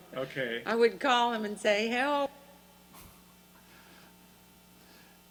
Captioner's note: voiceover